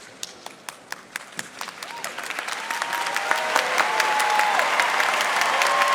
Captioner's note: audience applauding and cheering